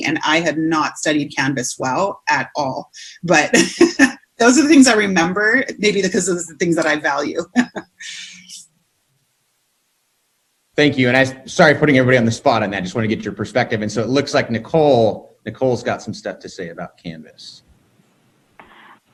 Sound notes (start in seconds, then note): 3.4 laughing; 7.3 laughing